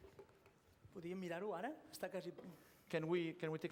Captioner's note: non-english speech